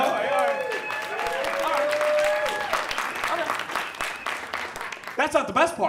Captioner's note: audience cheers and applauds